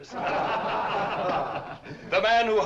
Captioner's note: laughter